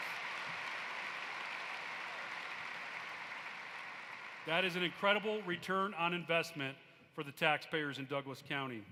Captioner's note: applause